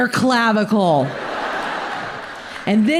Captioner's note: audience laughs